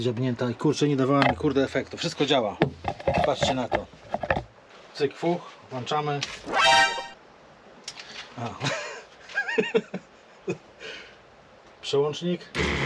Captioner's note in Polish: śmiech